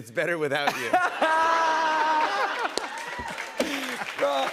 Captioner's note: laughter